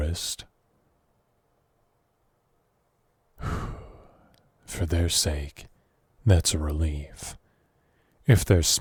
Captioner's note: sigh